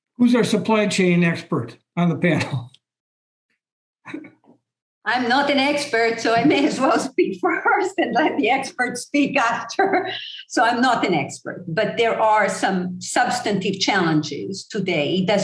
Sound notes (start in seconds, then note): 4.0 chuckle; 5.1 laugh